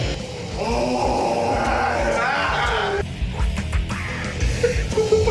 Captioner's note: demonic screeching